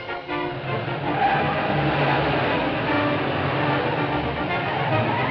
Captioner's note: fast-paced music; tires skidding